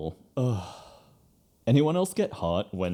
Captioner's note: sigh